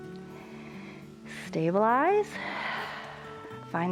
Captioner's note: exhales